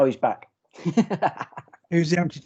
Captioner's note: laughs